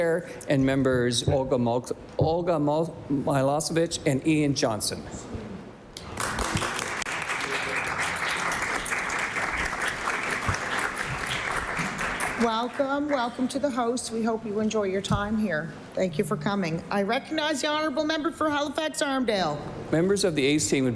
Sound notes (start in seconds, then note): 12.2 applause